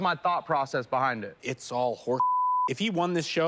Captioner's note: beep